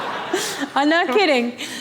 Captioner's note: laughter